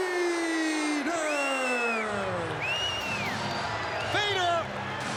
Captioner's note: crowd boos